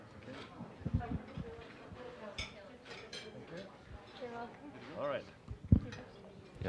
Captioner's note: general chatter